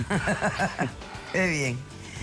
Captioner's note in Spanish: Risas